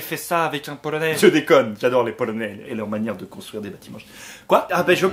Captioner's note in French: marmonne